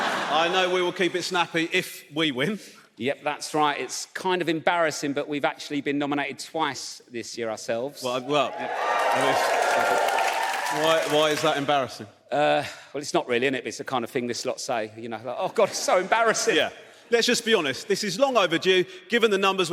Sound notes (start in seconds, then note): 0.0 audience laughs; 8.1 audience cheers